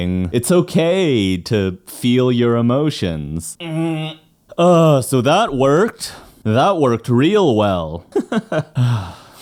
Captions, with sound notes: It's okay to feel your emotions. So that worked. That worked real well. (laughs)